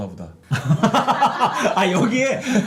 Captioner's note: laughing